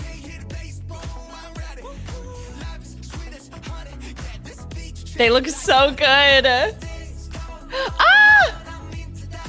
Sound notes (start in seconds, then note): 7.7 exclaims